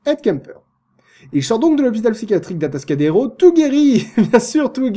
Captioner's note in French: rires